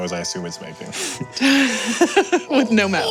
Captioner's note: laughs; gurgling